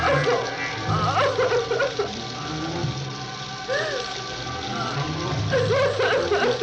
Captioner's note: crying